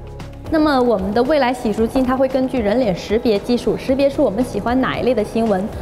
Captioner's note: speaking in Chinese